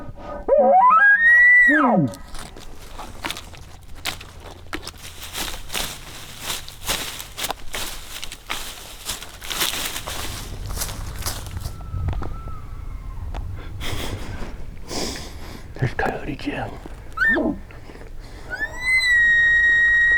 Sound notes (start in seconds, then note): 0.2 shooter bugling; 10.9 another hunter bugles; 18.4 caller bugling